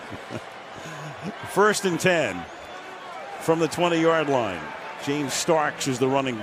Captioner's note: laughs